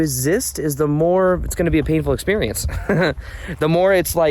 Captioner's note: laughs